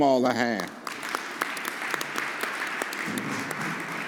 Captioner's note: all applauding